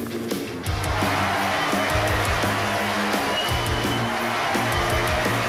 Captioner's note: students cheering